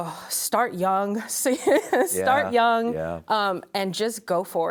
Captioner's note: laughs